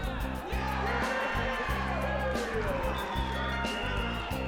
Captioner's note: cheers